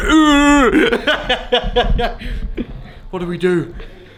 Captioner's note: laughing